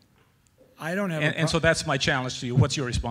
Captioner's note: voiceover